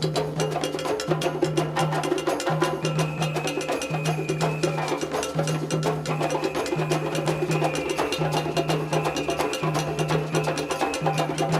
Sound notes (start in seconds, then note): 3.0 whistle trilling